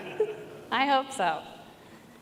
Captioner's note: laughter